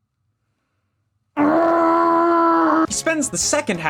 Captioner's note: frustrated Screaming